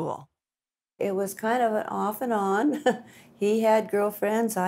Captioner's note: giggles